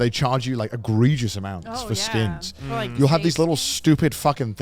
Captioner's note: men laugh